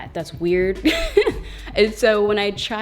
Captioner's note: laughs